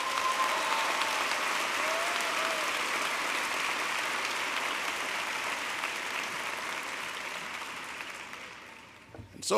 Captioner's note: applause